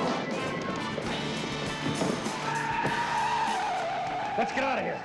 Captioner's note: tires squealing